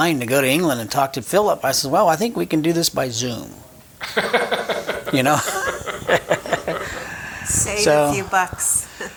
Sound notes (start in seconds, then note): 4.0 chuckling